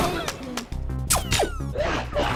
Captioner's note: electronic blast; screams; electronic blasting